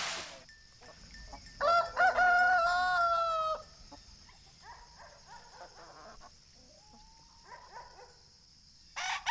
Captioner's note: rooster calling